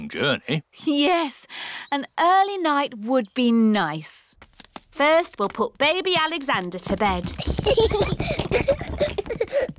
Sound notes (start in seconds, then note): 7.3 children giggling